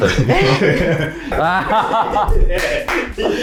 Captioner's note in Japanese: 笑い